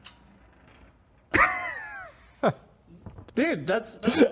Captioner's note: laughter